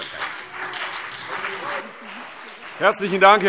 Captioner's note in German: Beifall CDU und BÜNDNIS 90/DIE GRÜNEN